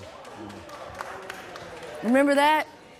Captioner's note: applause